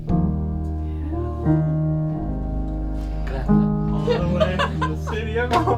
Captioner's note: group cheering and laughing